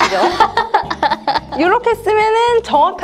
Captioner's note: laughter